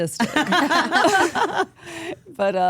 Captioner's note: group laughs